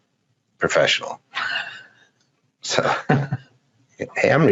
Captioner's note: laughs